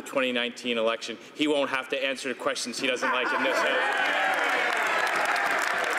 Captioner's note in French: voix de l'interprte